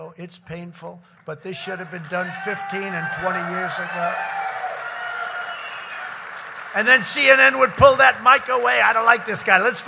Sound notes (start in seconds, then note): 1.5 applause